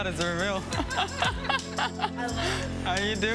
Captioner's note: laughs